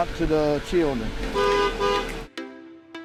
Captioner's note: honks horn